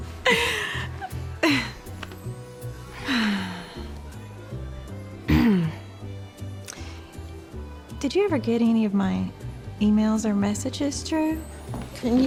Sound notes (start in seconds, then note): 0.0 both chuckling; 5.2 clears throat